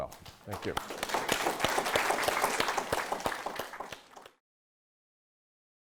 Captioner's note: audience applauding